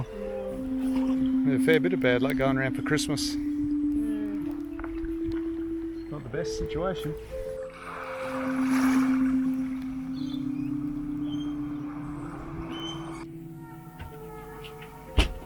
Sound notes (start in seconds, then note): 8.2 water lapping